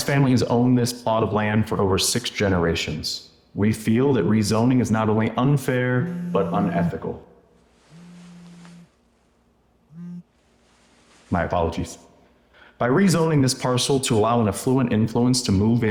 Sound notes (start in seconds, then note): 6.0 phone buzzing